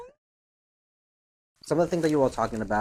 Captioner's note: silent